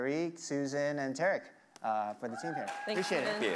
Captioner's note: audience cheering